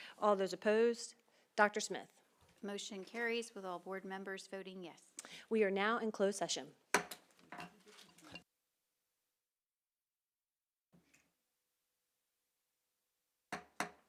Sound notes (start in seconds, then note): 6.9 gavel hitting dais; 7.8 silence; 13.4 gavel hitting dais